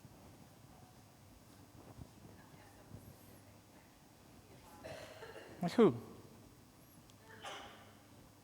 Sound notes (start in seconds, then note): 4.7 audience members murmuring and coughing